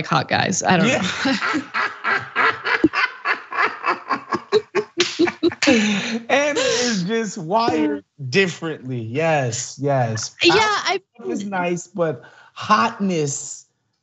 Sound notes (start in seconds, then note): 3.5 laugh